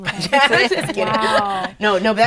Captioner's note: laughing